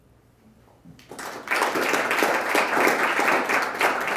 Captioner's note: audience applause